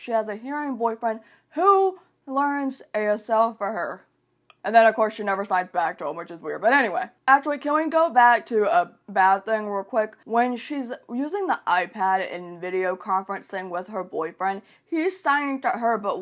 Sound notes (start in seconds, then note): 4.4 click